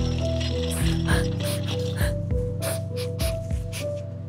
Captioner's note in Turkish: Kadın ağlıyor